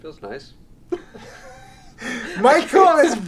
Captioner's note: laughs